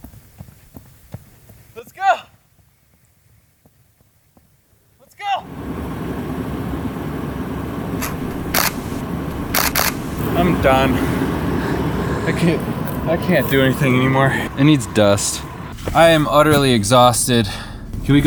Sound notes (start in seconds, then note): 6.1 car engine humming; 9.5 camera clicking